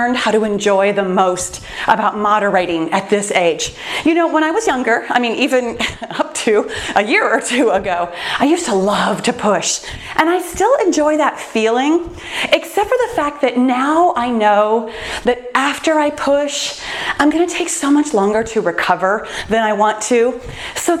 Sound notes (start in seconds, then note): 5.8 laughs